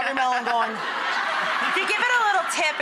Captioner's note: audience laughing